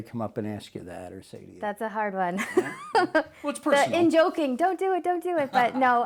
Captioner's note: laughs